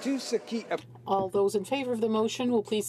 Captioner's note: speaking french